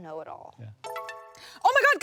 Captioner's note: phone chimes